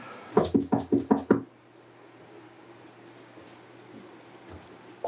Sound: knocking at door

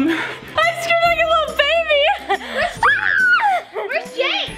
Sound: screams

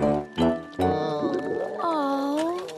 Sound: moan

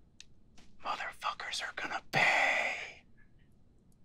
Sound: whisper

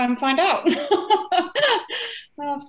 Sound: laughter

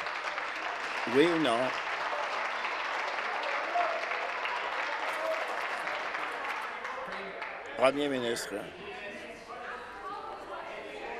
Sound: applause

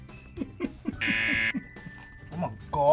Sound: laughs; buzzer

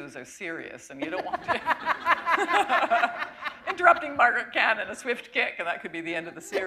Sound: chuckle

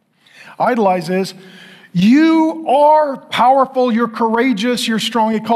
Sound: none

